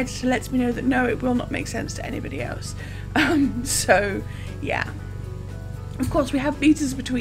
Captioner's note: laughs